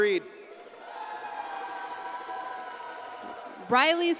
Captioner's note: audience cheers and applauds